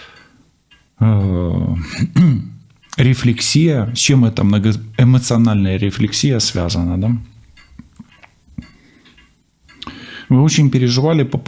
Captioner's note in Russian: откашливается